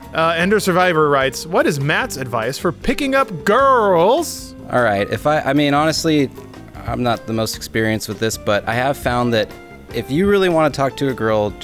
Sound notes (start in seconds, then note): 1.4 reading out loud